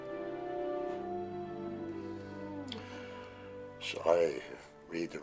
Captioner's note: howling in distance